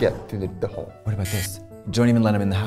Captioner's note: alarm buzzing